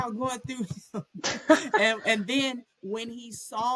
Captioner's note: laughter